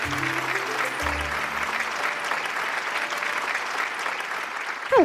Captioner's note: audience clapping